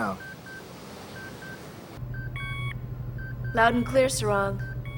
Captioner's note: machine beeping